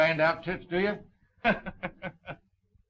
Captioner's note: laughing